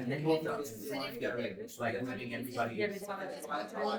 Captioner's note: people chattering